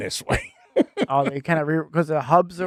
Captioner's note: laughing